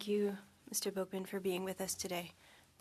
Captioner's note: speaking French